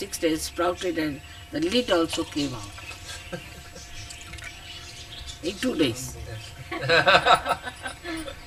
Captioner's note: laughter